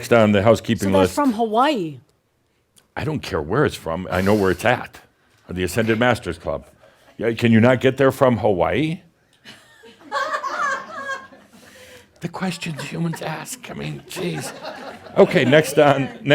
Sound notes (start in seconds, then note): 9.7 someone chuckles loudly; 14.8 more chuckles